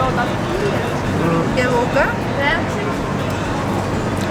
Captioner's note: foreign language